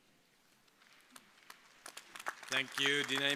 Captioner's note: crowd applauding